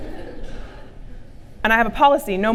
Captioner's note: laughter from audience